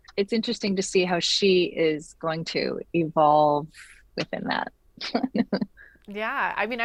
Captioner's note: chuckles